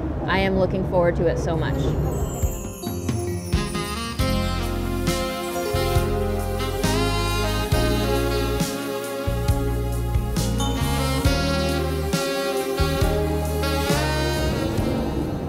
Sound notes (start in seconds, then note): 1.8 chimes twinkling; 5.0 romantic saxophone music